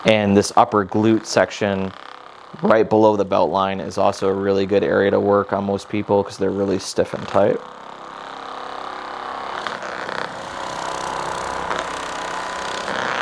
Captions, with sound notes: and this upper glut section, right below the belt line, is also a really good area to work on most people because they're really stiff and tight. (motor rumbling)